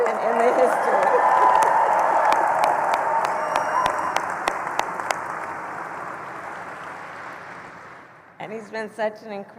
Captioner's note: applause